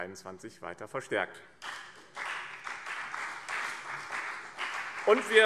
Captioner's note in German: Beifall BÜNDNIS 90/DIE GRÜNEN und vereinzelt CDU